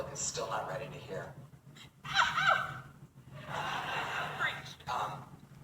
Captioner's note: audience member laughs then says, “Preach”